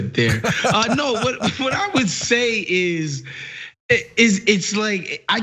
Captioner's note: laugh